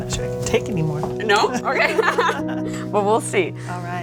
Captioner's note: laughs